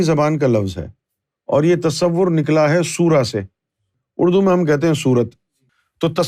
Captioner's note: in Arabic